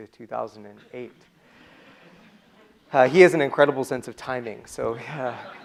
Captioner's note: laughter from the audience